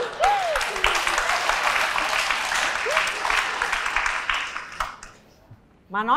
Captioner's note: applause